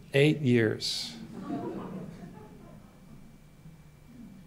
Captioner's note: laughter